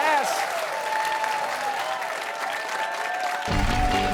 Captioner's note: cheers and applause